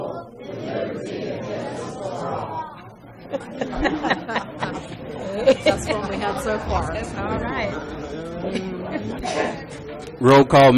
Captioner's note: chatter